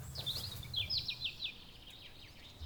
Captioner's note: birds chirping